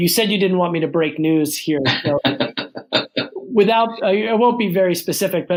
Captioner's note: laughs